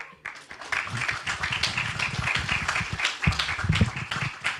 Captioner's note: audience clapping